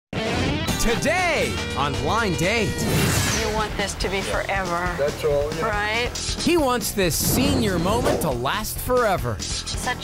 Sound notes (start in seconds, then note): 0.1 upbeat music; 2.8 wooshing